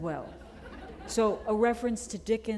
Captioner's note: chuckle